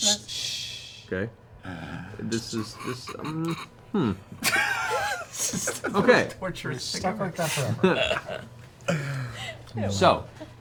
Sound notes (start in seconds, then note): 4.3 laughs